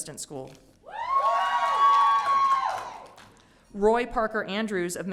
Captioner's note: audience cheering